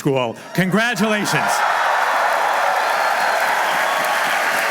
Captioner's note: applause